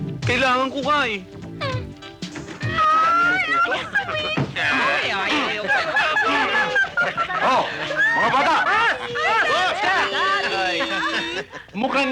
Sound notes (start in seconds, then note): 4.8 chattering